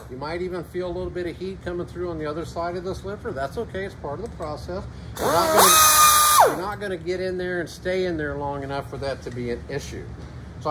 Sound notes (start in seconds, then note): 5.2 grinder buzzing